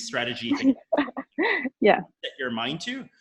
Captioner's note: laughs